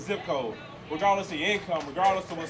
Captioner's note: applause